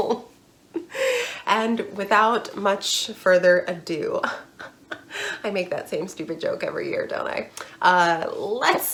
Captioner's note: fake laughter